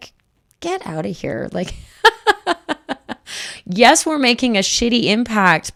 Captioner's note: laughs